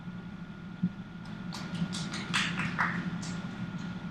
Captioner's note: quiet applause